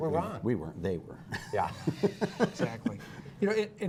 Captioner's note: laughter